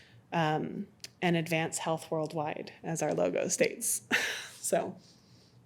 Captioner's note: laughs